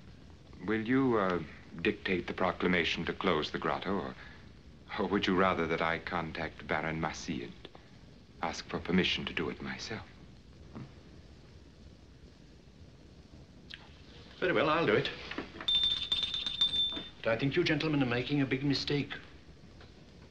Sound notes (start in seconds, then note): 15.6 bell Dinging